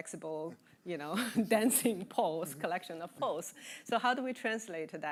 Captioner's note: chuckling